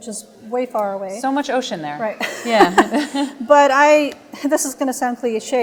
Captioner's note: laughter